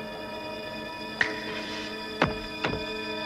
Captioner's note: fingers snap